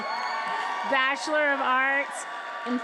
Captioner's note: attendees applauding and cheering